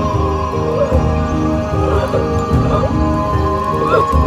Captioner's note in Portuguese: som de sufocamento